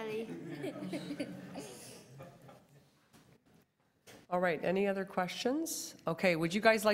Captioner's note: laughter